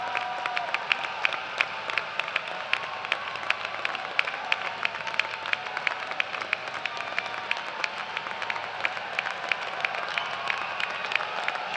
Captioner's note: cheers and applause